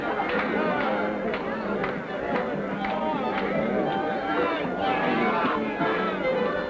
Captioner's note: people chatting; upbeat folk music